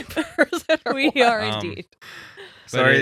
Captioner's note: laughing